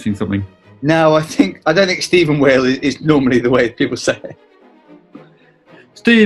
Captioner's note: chuckles